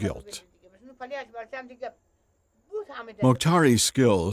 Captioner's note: speaking foreign language